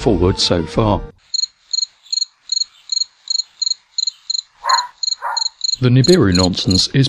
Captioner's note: sound of crickets